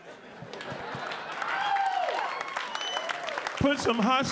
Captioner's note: audience applauding